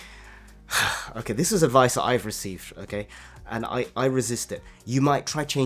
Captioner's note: sighs